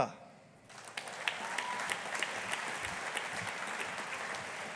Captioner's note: audience applauding